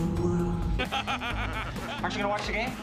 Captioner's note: laughter